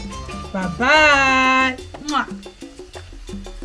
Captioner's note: kisses